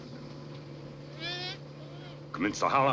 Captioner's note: dog whimpers